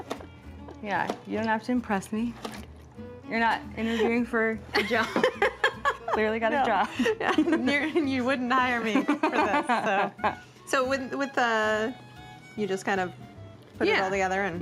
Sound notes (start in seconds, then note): 8.8 laughs; 8.8 chuckles